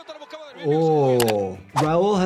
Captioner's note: commentator speaking in foreign language; keyboard clicking